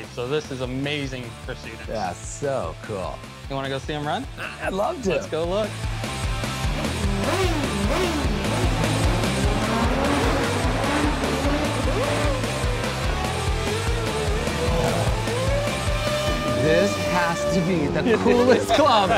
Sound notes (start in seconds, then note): 5.8 race car engines revving; 5.8 upbeat music